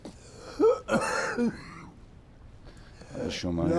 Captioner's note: coughing